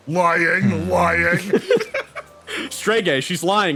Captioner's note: laughs